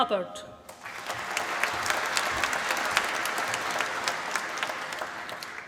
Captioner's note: applause